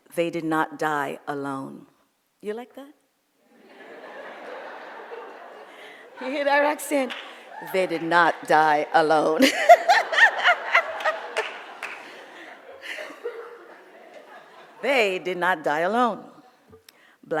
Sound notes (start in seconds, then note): 3.8 audience laughs; 9.1 laughs; 9.8 audience laughs